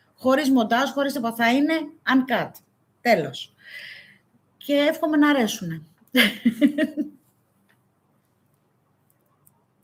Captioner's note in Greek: γέλια